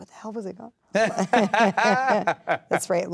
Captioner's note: laughing